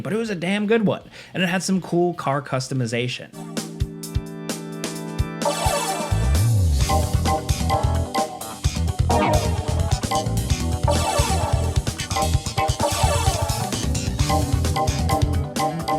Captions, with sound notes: but it was a damn good one, and it had some cool car customization. (funky upbeat music) (interface chiming)